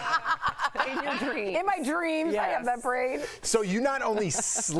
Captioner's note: laughter